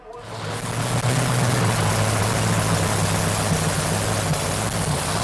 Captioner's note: monster truck engine roars